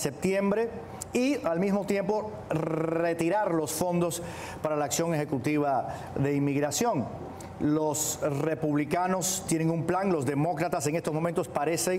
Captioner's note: speaking spanish